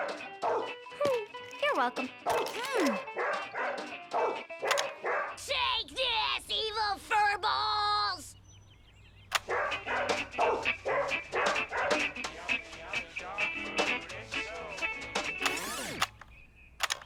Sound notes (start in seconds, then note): 0.0 dog barking; 1.3 grunts; 7.1 clicking sound; 9.4 dog barking; 9.4 country music; 14.3 clicking sound; 16.9 country music